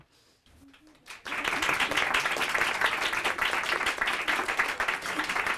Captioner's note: audience applauding